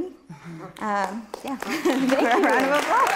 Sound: audience clapping

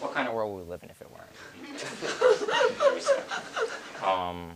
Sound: audience laughs

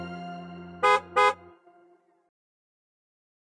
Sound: bus horn honking

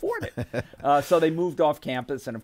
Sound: laughing

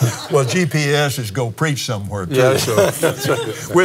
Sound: laughs

